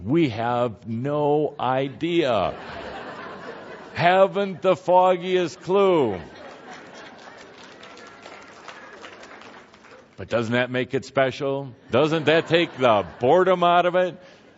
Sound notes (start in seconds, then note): 2.2 laughter; 5.2 laughter and some applause